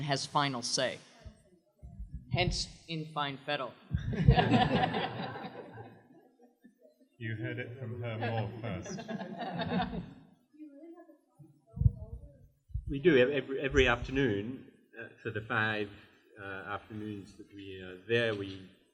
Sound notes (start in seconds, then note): 4.0 laughter